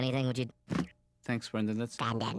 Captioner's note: in funny high voice